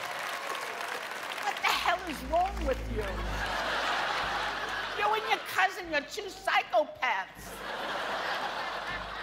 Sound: cheers and applause

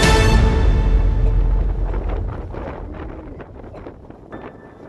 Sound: wind rustling; ominous piano music

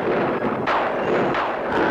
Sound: thunder crashing

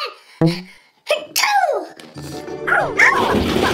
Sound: boink; sneezing

